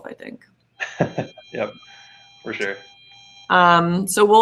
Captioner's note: laughs